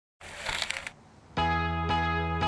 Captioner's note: whooshing; light music